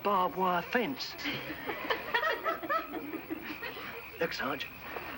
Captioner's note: laughing